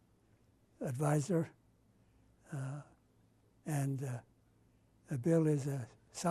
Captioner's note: pauses for 3 seconds